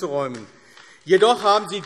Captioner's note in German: Beifall AfD